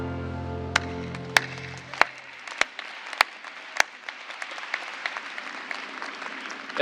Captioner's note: applause